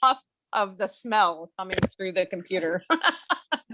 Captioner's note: laughs